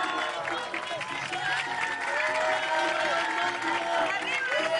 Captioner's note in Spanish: Aplausos